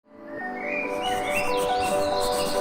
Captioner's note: soft music; birds chirping; pencil scribbling